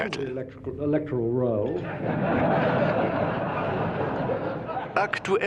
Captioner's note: audience laughing